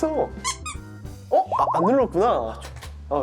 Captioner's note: tsk tsk